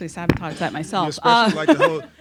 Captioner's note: laughter